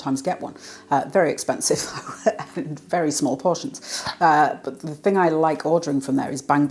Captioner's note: laugh